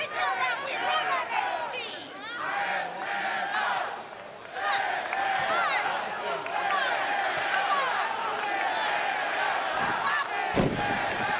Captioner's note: fans chanting